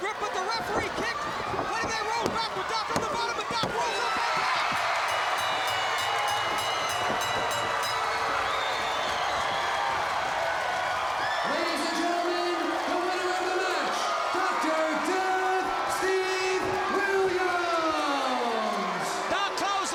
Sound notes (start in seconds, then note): 4.6 crowd cheering; 5.4 bell ringing; 6.2 crowd chatter